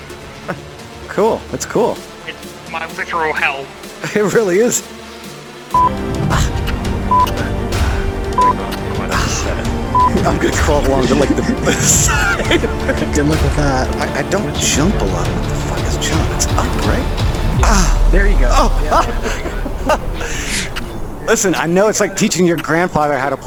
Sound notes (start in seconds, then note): 7.1 beep; 9.9 beep; 10.0 everybody laughing; 18.4 everybody laughing